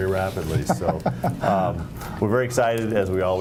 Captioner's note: laughter